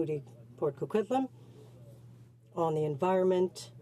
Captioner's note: speaking french